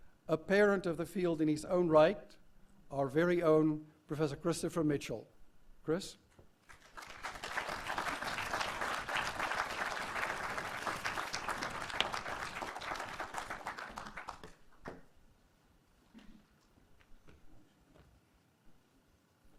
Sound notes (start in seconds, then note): 6.6 applause